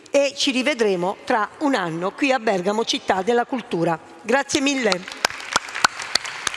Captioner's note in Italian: Applauso